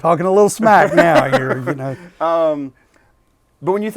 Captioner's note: laughing